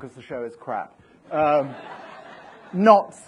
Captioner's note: audience laughs